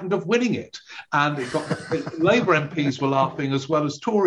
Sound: laughing

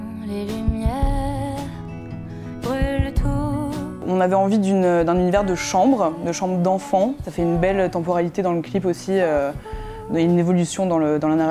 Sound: speaking in french

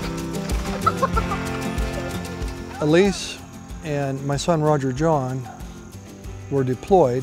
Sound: kids giggling

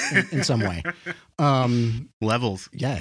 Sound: laughs

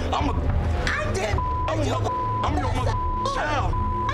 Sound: beep

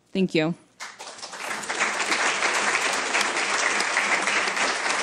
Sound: applause

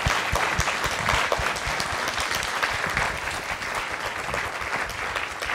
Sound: audience applause

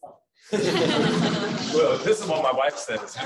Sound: laughter

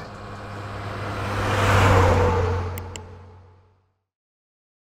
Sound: truck whizzing sound

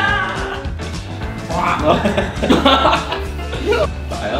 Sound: coughs

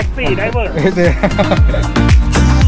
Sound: laugh

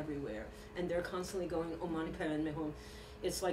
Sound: non-english speech

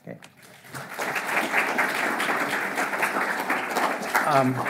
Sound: audience applauding

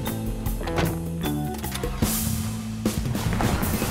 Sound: engine starts

